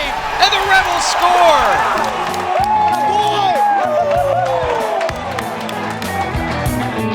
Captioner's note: cheering